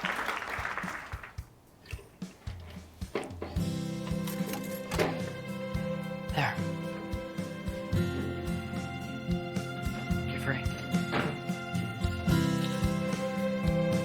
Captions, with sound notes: (gentle music) (lock clicks) - There. You're free.